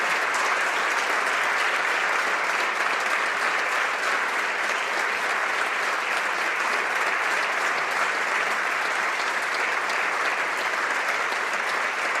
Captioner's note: applause